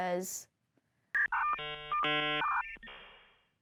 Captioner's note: buffering modem beeping sounds